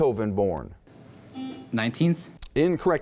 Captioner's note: buzzing